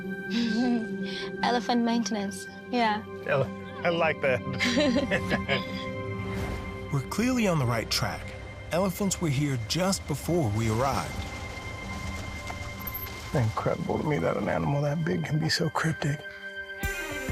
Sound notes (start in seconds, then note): 0.3 chuckles; 4.4 both chuckle